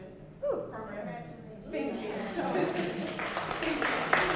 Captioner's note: clapping